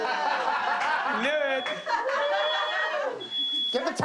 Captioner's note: laughter; cheering